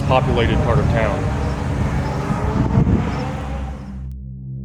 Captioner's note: car revving for some reason